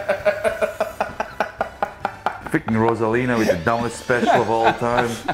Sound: laugh

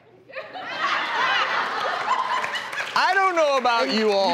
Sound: audience laughs

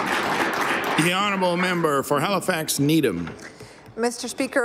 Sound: aapplause

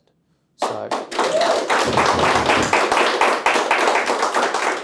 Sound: audience applauding

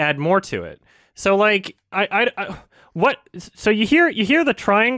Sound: stammers a bit

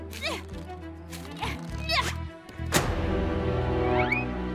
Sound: Webby grunting

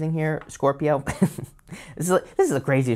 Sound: laughs

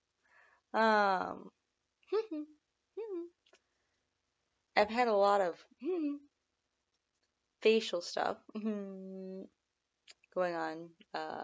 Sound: hum

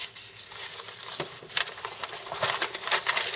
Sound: rustling paper

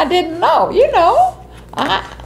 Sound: laughs

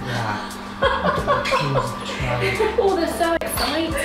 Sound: laughing

